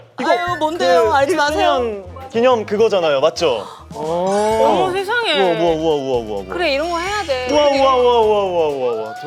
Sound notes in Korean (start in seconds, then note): 6.4 스윽